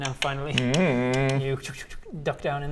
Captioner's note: click click